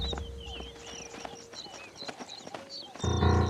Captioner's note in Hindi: चहचहाहट